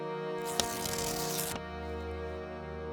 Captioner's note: page tearing